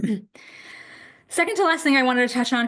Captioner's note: clears throat